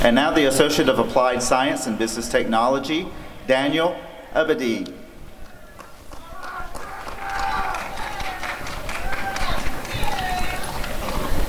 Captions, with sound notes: And now the Associate of Applied Science in Business Technology— Daniel Abadie [applause and cheering]